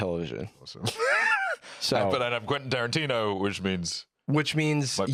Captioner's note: laughs